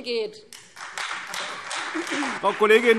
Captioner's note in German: Beifall Freie Demokraten, AfD, vereinzelt SPD und DIE LINKE